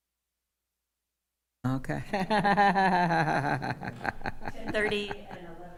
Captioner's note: audio cuts out; laughing